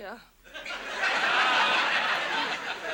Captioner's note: audience laughs